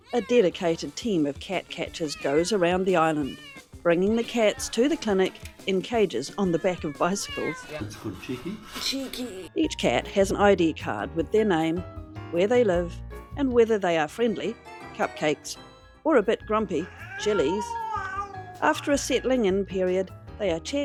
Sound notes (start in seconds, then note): 6.2 many meows; 8.0 jaunty music; 14.4 circus music; 17.5 catgrowl